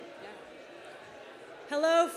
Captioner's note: people chattering indistinctly